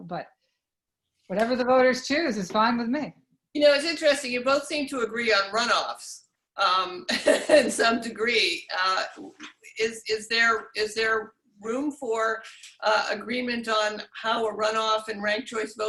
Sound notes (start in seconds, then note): 7.0 laughs